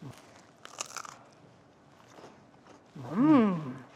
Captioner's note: crust crunching